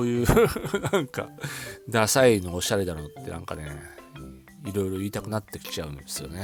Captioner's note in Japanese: 笑い